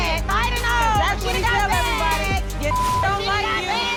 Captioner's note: both yelling at once; beep